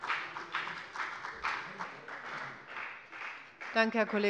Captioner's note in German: Beifall bei der FDP